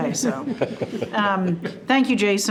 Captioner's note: group chuckling